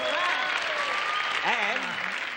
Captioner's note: cheering and applause